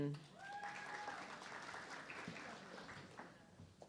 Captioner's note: audience clapping